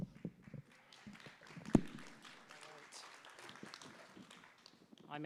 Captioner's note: applause